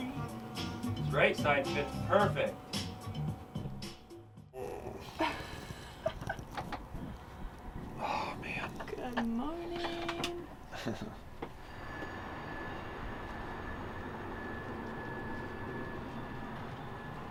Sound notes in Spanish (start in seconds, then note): 6.4 riendo; 10.6 riendo